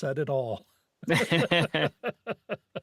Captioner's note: laughing